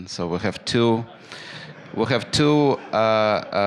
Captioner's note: laughter